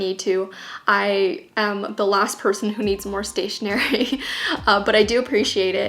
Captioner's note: laughs